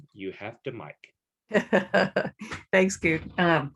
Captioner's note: laughs